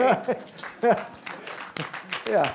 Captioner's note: applause